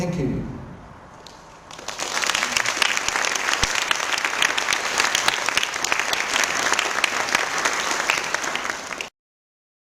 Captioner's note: applause